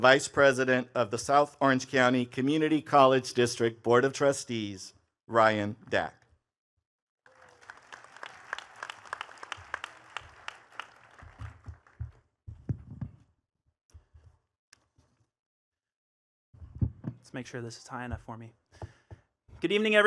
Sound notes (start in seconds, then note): 7.2 attendees clapping